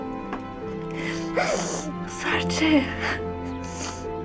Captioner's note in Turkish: Serçe ağlıyor